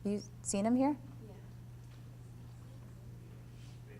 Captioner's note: voiceover